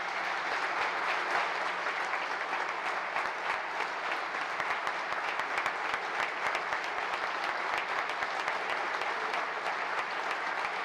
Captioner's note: applause